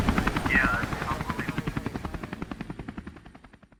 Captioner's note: radio garble